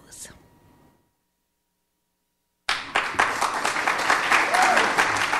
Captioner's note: audience clapping